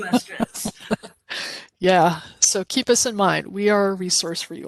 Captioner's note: laughing